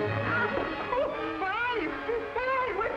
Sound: music peaks; man cries

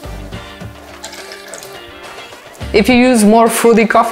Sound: espresso splashing

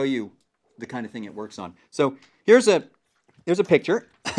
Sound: cough

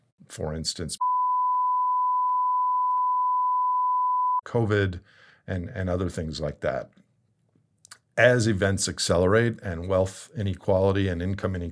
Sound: beep

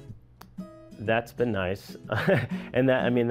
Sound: laughs

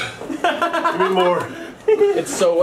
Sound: laughter

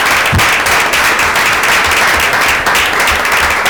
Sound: applause

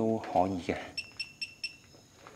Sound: beep beep beep

